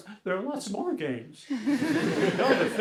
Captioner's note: laughter